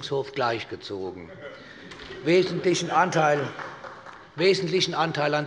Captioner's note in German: Heiterkeit bei Abgeordneten der SPD - Vereinzelt Beifall